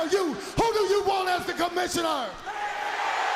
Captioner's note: crowd cheering